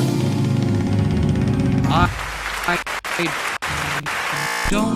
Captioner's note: intense buzzing noises